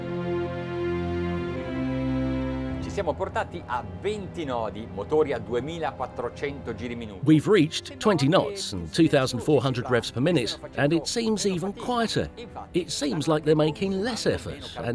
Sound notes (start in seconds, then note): 0.2 majestic music; 3.6 speaking foreign language